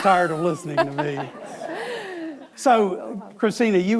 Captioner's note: Christina laughs